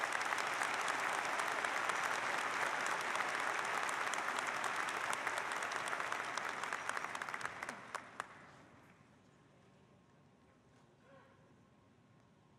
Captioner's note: applause